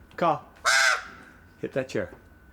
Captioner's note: caws